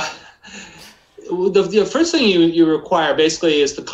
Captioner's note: laughs